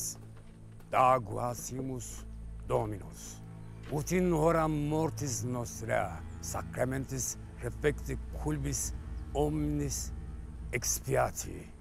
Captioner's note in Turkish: Latince konuşmalar